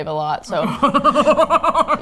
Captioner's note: both laugh